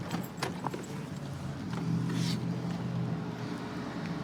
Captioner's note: distant traffic hum